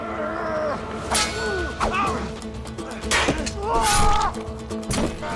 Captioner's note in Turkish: Dövüş sesleri